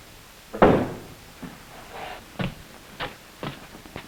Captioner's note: door bangs